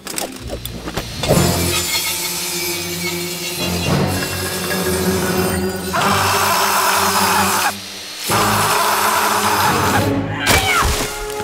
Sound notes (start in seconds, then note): 0.5 tense music; 6.0 man screaming